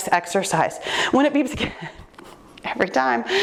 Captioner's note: laughing